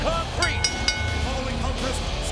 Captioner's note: bell rings